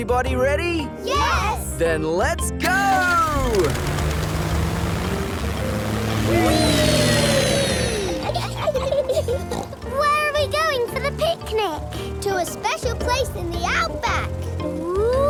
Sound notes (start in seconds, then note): 8.0 laughs and snorts